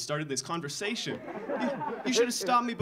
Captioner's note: audience laughing